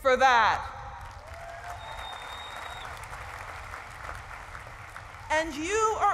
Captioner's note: cheering and applause